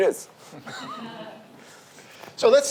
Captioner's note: audience laughs